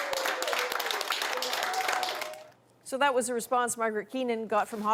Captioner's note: applause